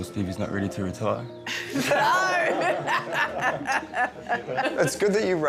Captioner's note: all laughing